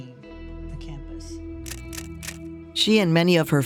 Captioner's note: camera shutter clicking